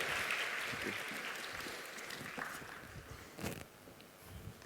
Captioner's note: applause